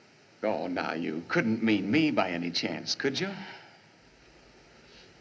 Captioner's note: sighs